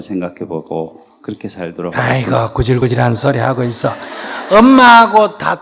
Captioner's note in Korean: 청중 웃음